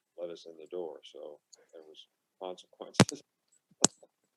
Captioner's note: laughing